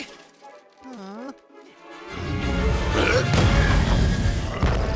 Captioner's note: grunting; disappointed sigh